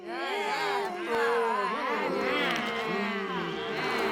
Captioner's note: crowd grumbles